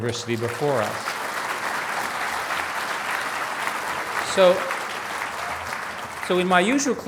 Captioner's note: applause